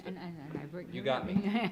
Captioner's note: mumbles, laughs